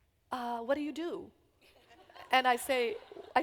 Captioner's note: laughter